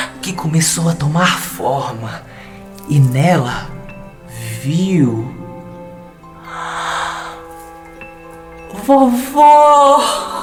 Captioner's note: gasps